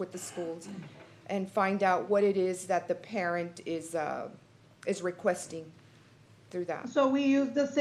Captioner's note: clears throat